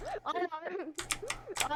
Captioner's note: laughs